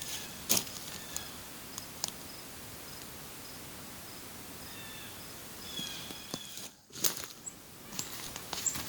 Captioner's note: forest sounds, bird calls